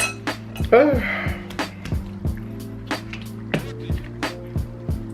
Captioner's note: loudly exhales